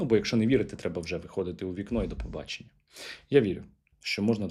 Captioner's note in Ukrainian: сопіння